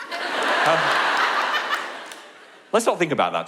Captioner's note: audience laugh